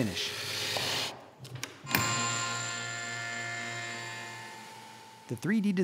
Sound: machine Sounds

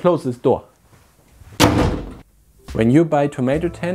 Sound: door bangs

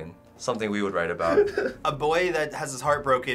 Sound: sobs

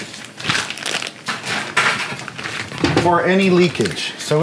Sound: crumpling

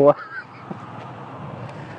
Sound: both laughing

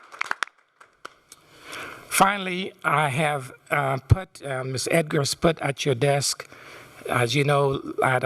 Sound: applause

